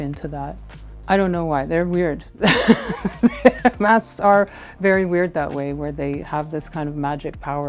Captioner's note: laughs